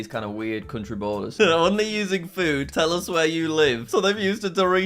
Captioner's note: laughing